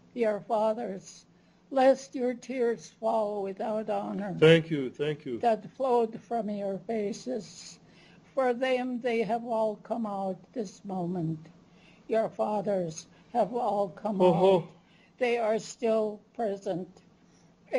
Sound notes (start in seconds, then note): 14.3 non-english speech